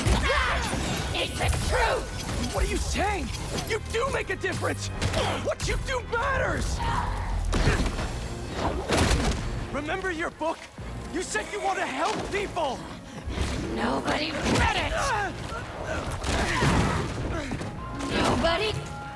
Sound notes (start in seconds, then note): none